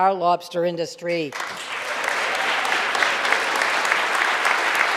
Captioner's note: audience applauding